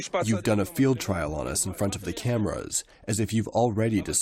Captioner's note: through translator